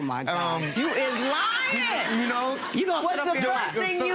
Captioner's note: laughing